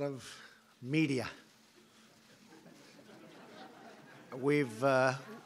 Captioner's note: laughter